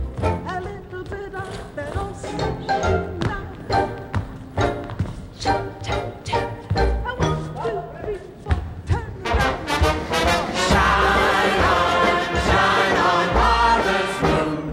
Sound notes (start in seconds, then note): 3.4 feet tap on floor